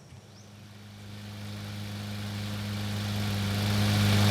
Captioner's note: mower roaring